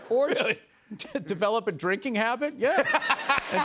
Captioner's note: laughter